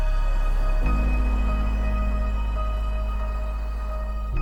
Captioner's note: wind sweeps wide